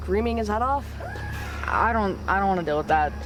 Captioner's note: Johnny screams